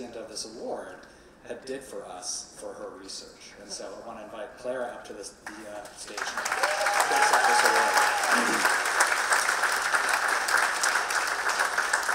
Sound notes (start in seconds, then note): 6.0 audience clapping and cheering